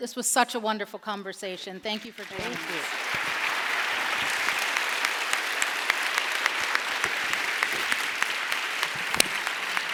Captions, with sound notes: this was such a wonderful conversation. Thank you for joining us. - Thank you. (audience applauds)